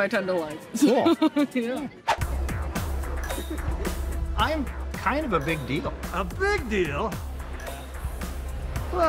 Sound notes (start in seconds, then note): 3.2 laughs; 3.4 electric music; 8.2 electric music